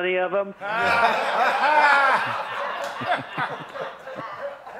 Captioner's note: laughter